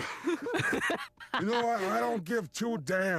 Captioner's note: snickering